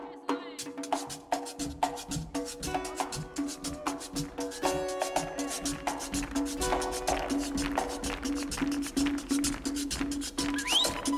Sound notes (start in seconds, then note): 2.4 upbeat music; 3.4 audience cheers; 6.0 audience claps; 6.0 upbeat music continues